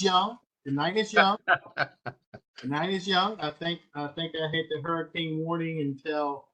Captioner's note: laugh